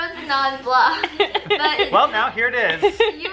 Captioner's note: laughing